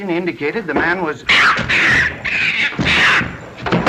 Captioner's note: monkey squeaks furiously